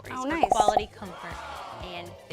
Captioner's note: popping; wowing